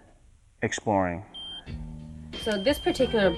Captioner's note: machine beeps